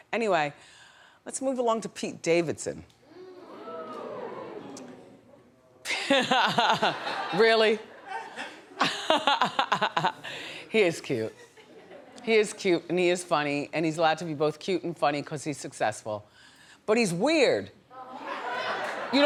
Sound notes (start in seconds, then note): 3.1 audience ooh's; 7.9 Wendy laughs